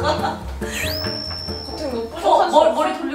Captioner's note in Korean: 웃으며; 피슝, 효과음